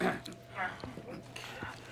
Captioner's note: clears throat